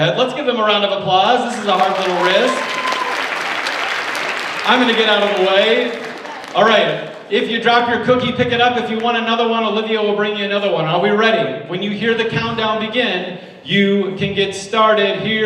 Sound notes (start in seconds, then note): 1.4 audience applauds